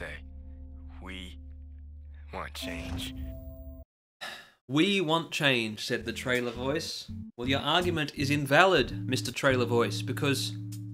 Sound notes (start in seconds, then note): 4.2 sigh